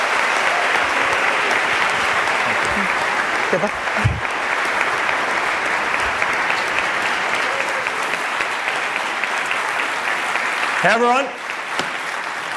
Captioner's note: applause